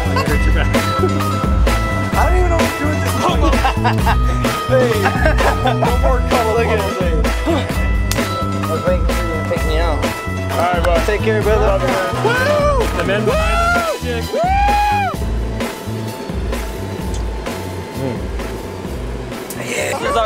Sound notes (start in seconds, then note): 2.8 laughs; 13.2 whooping